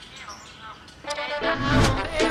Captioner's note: birds chirping; uplifting music continues